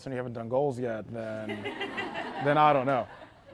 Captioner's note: audience laughing